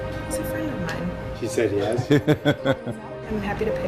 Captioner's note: laughing